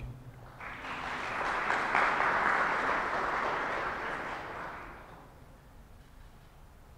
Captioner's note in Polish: oklaski